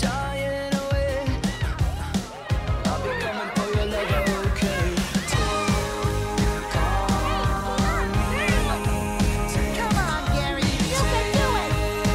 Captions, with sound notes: -[snails meowing] -[indistinct chatter] Come on, Gary! You can do it!